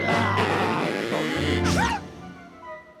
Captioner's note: rope creaks